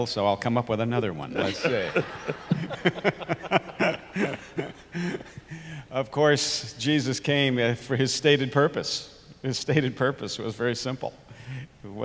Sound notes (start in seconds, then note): 1.4 eveyone laughs